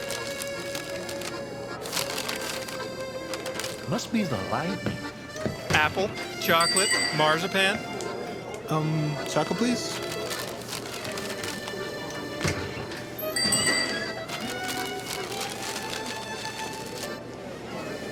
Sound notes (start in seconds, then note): 13.2 bell